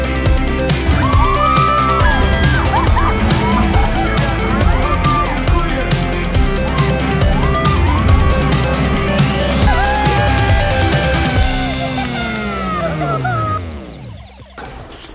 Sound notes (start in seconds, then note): 0.8 all screaming; 10.1 cheering and clapping